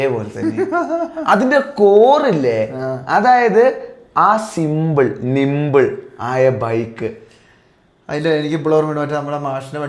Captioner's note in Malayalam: പൊട്ടിച്ചിരി